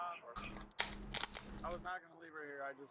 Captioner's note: camera shutter